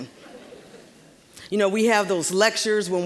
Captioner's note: audience laughing